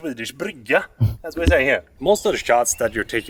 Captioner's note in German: spricht schwedisch